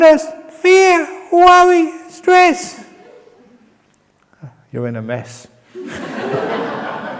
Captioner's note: laughter